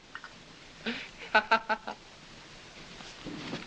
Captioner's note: laughing